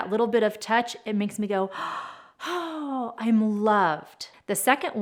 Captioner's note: gasps